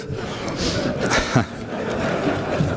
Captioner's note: crowd laughs